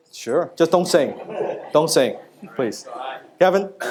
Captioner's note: audience laughing